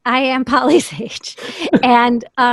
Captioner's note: laughs